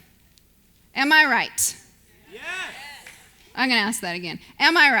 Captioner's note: audience shouts "Yes"